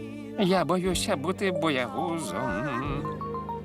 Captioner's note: screaming